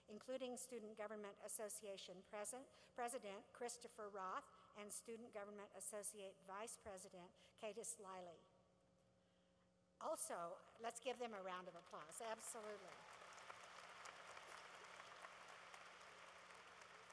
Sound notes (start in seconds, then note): 11.6 applause